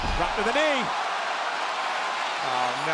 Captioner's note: spectators cheering